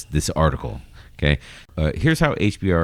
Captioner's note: uh